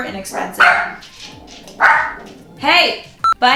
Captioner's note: dog bark